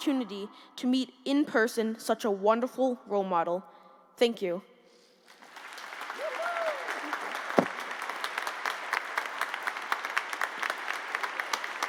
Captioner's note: applause